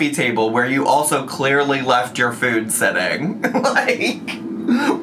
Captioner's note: laughs